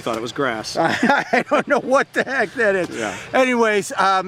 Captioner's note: laughs